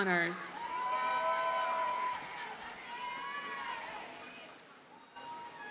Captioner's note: audience cheers and applauds